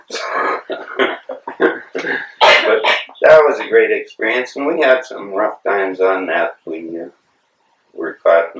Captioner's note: laughter